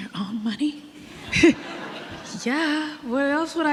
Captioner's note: audience laughing